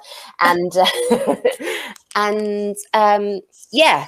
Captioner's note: laughs